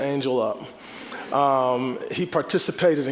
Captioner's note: audience chuckling